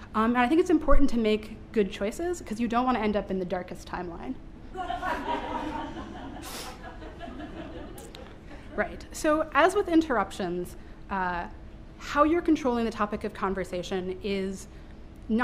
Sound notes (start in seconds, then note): 4.7 laughter